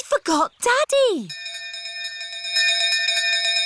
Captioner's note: bell continues dinging